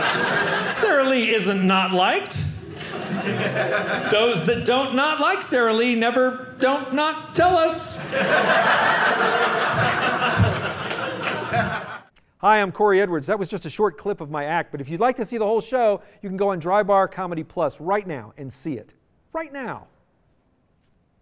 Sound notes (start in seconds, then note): 7.9 audience laughing